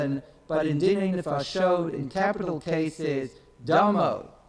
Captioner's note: speaks in foreign language